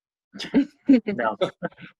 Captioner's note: laughing